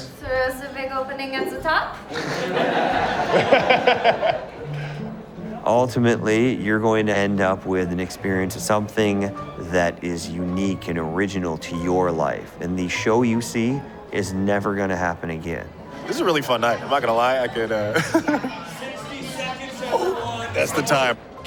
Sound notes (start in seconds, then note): 2.0 laughs; 16.0 laughs